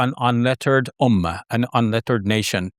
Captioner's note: speaking Arabic